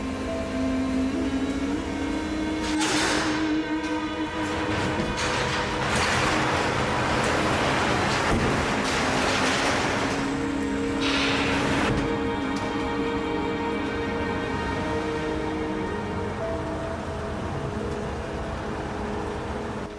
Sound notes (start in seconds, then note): 5.5 garage door rattles